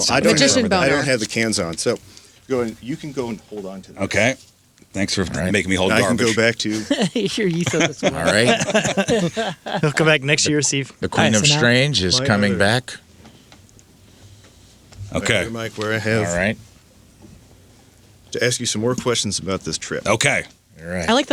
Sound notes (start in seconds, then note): 9.7 laughing